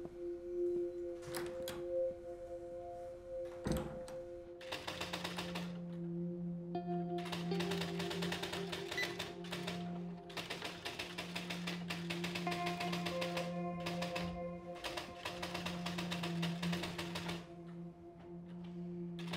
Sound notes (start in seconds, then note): 0.6 doors opens, closes; 4.6 typewriter clacking; 10.3 gentle music playing